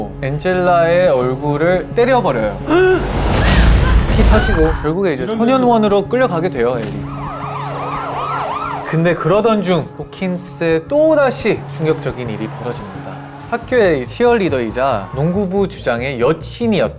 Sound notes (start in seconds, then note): 3.2 whack; 6.8 wee-woo